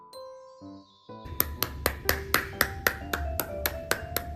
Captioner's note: claps